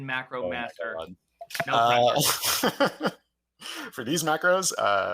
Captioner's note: laughs